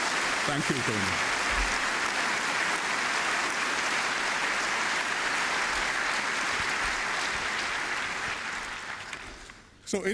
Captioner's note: applause; applause